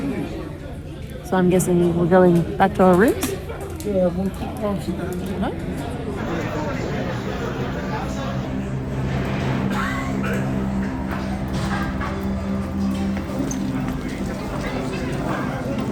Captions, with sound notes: So I'm guessing we're going back to our rooms? Yeah? (people chattering) (suspenseful music)